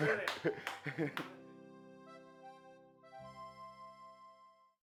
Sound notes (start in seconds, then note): 0.0 laughing